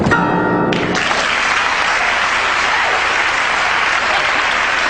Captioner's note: bright jazz music; audience clapping